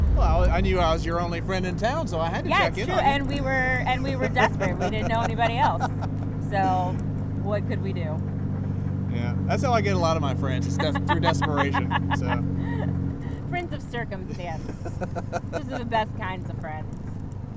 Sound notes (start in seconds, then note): 3.8 laughing; 10.7 laughing; 14.1 laughing